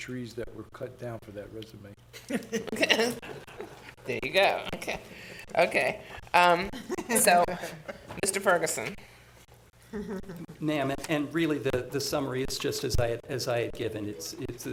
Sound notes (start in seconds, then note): 2.1 laughter; 9.8 chuckling